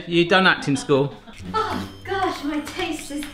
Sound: laughing

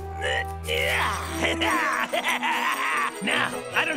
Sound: fizz giggles

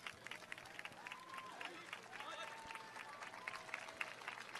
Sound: cheers and applause

